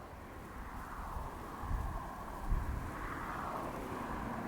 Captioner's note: Traffic